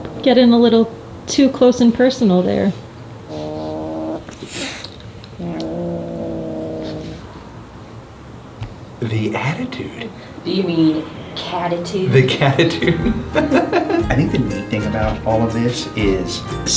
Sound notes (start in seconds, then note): 3.2 cat growling; 5.3 cat hisses; 12.6 laughs